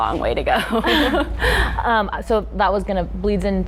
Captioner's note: laughing